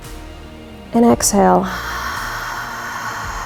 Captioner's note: exhales